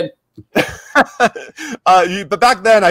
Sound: laughing

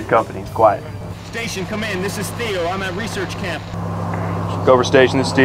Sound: Theo on Radio

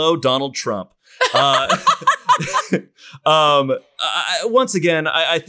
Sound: all laugh

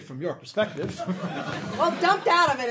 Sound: audience laughing

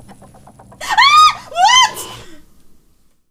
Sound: scream

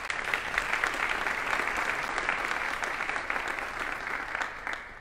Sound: audience applauding

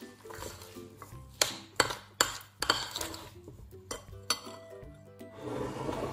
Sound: spoon sound

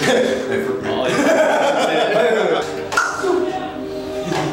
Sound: laughs

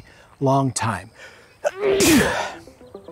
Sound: sneezes

